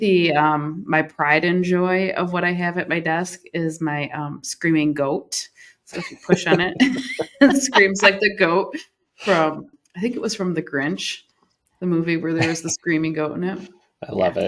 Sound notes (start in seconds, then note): 5.9 laughter